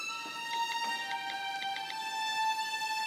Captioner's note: dialing cell phone